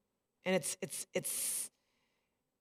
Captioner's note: none